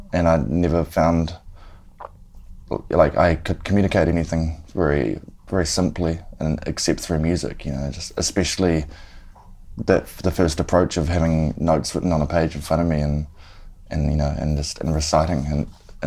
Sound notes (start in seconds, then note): none